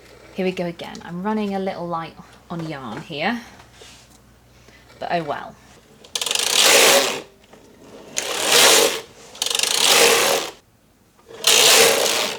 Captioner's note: machine whirring